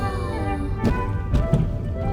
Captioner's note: thump thump